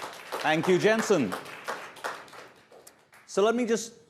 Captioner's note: applause